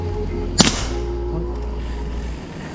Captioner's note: pop